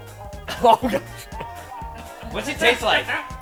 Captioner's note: group laughing